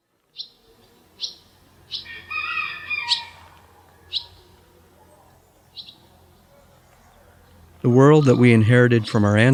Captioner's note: birds chirping